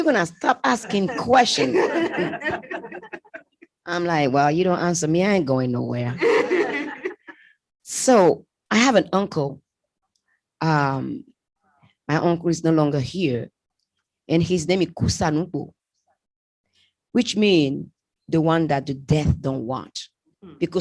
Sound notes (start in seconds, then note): 0.6 laughter; 6.2 laughter